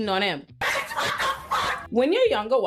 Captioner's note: laughing